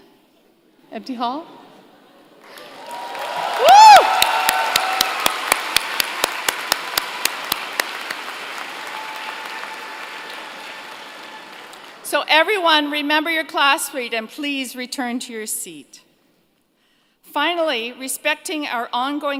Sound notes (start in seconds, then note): 2.4 cheers and Applause